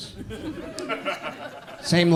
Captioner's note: audience laughs